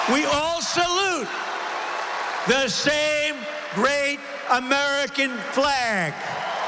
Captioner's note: applause